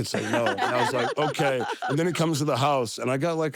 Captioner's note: laugh